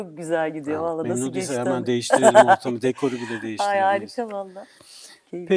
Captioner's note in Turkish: kahkaha